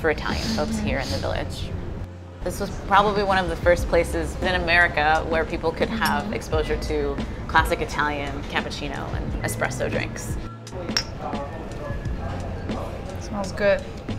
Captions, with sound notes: for Italian folks here in the village. This was probably one of the first places in America where people could have exposure to classic Italian cappuccino and espresso drinks. (cups clinking) - Smells good.